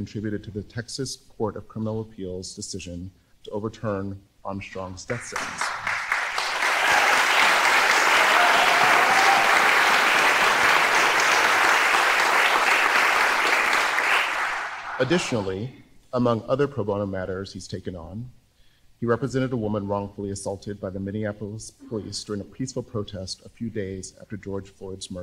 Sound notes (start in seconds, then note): 10.9 applause